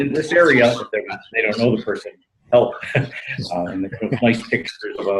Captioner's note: laughs